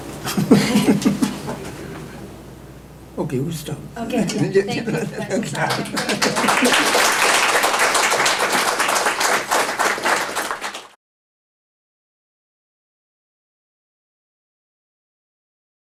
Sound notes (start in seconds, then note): 0.2 laughter; 4.1 laughs; 5.3 applause